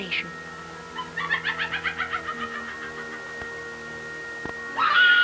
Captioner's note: laughter